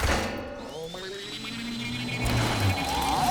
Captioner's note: METALLlC WARBLlNG